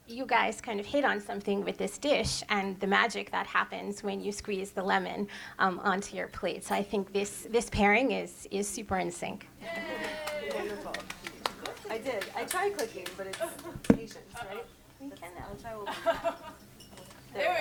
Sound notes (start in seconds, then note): 9.8 audience claps; 16.3 chuckles